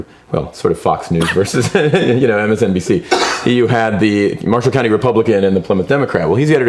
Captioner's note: laughs